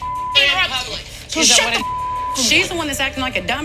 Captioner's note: beep